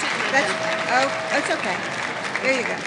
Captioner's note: speaking off microphone